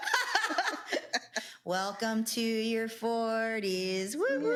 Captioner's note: laughs